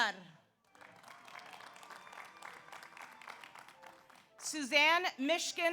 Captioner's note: audience applauds; audience cheers